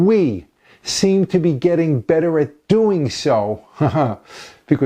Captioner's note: ha, ha